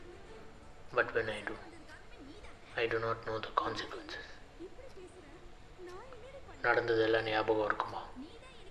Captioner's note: Recording M7300 still playing on phone